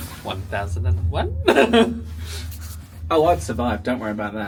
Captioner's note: chuckles